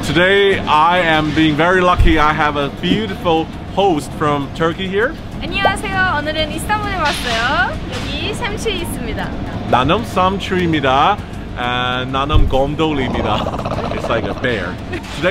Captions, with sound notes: Today I am being very lucky. I have a beautiful host from Turkey here. (speaking foreign language) It's like a bear.